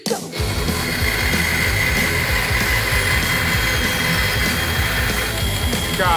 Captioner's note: heavy metal music; saw buzzing